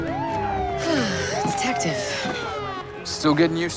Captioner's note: sighs